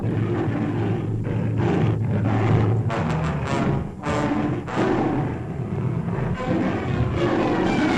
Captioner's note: gorilla growling; dramatic music